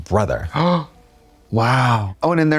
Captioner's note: Trixie gasps